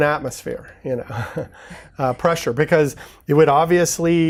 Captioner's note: both laughing